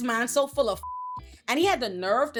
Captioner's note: beep